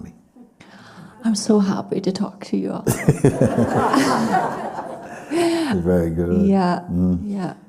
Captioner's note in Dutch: gelach